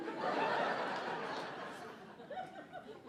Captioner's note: audience laughing